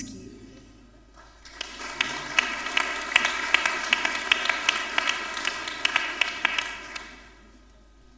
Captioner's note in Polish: oklaski